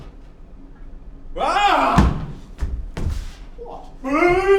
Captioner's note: angry grunt; shouting